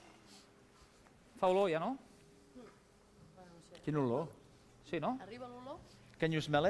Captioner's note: non-english speech